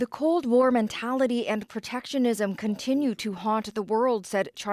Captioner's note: speaking alternate language